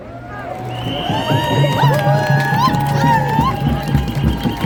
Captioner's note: cheers and applause